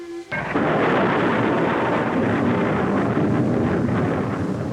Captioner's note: rocket rumbling